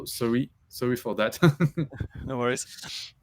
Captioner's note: laughs